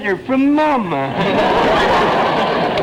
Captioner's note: audience laughter